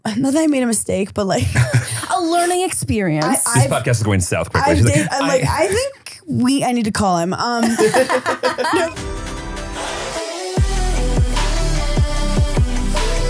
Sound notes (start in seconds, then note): 7.6 laughing; 9.3 upbeat music